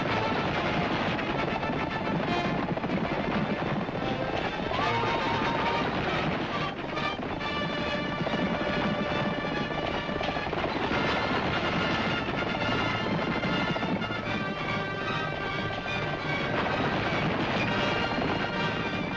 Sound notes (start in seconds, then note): 7.0 hooves thundering; 7.0 suspenseful music